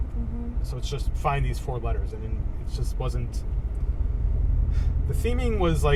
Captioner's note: sigh